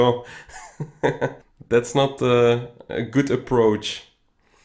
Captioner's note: laughs